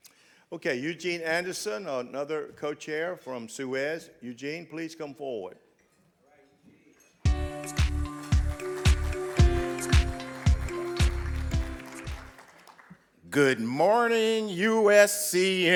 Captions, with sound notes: Okay, Eugene Anderson, another co-chair from SUEZ. Eugene, please come forward. (soft electronic music) (audience clapping) - Good morning USCM!